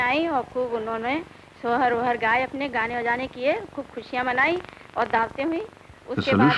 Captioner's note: non-English speech